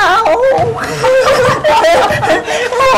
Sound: both laughing

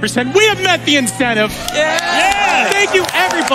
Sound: audience cheers

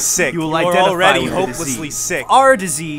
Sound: slowed coughing

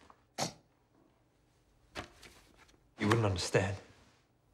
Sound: snorts

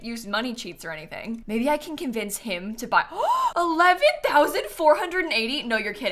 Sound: gasps

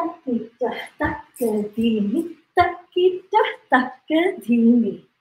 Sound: counts in foreign language

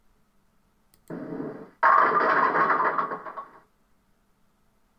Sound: bowling Sounds

